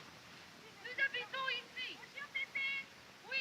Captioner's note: continue speaking french